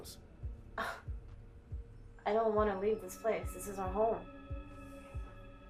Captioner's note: scoffs